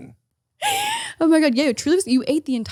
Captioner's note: wheezing